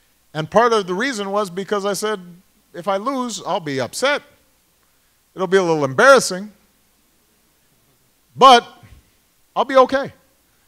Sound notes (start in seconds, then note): none